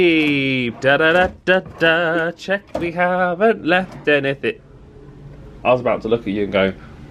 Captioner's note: humming